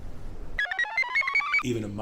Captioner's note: computer chirps